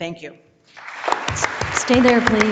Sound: audience and board members applauding

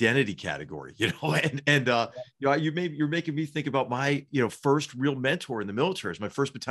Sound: laugh

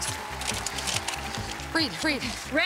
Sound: cheers and applause

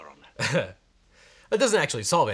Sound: chuckling

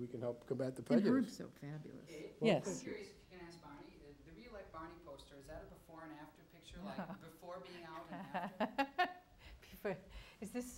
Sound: laughs

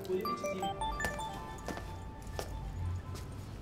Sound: phone rings

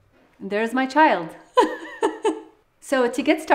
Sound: laughs

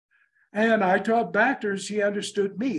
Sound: in English

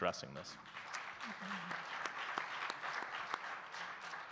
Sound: audience clapping

